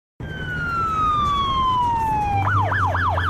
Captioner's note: siren